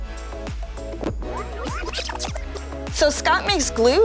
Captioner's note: tape whirl fast-forward